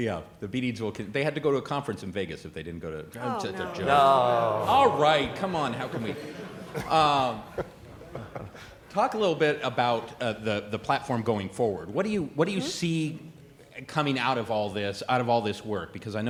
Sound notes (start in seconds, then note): 3.1 audience groans; 3.4 laughter